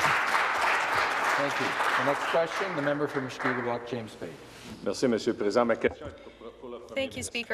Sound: some Applause

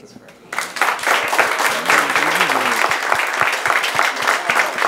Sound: applause

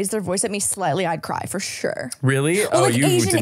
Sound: laughing

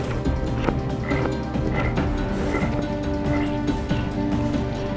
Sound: creature croaking

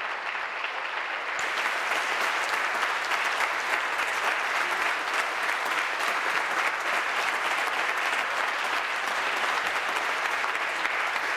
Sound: applause

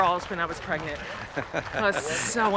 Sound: laughing

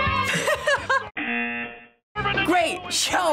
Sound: laughing; buzzer

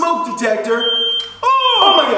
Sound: beep

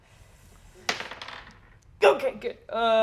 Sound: dice tap table

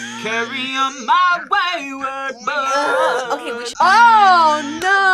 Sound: gasps; groans

